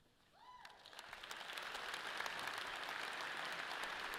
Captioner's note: audience applauds